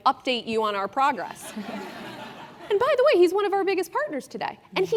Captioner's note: laugh